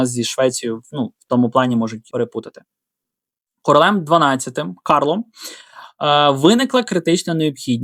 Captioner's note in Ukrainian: сопіння